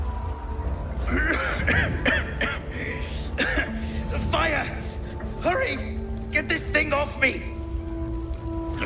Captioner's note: coughing